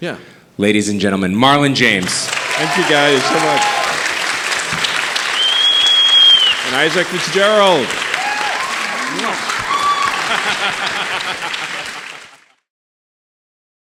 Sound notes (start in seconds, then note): 4.1 audience applauding and cheering; 8.7 audience applauding and cheering; 10.9 laughing